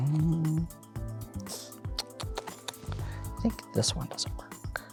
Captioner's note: clicks tongue